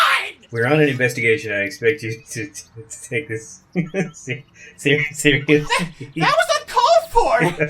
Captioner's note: laughing